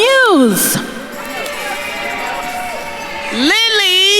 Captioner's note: attendees cheering and applauding